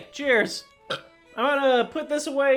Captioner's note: burp